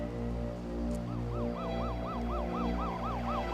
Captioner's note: sirens